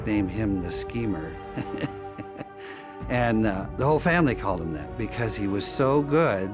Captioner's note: laughs